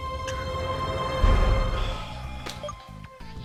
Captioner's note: sighs